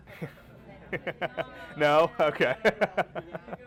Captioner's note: laughing